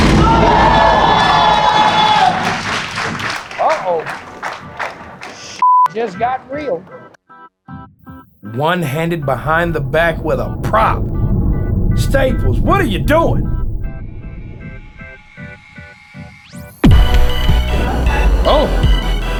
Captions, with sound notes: (spectators applauding) Uh-oh, this (beep) just got real. One-handed behind the back with a prop! Staples, what are you doing?